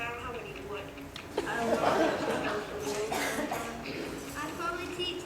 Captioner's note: laughter